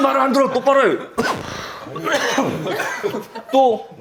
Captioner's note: choking